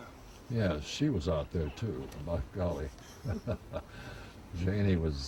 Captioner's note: chuckles